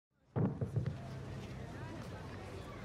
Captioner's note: thudding